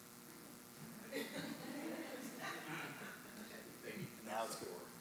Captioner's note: audience laughing